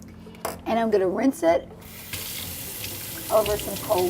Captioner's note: water rushes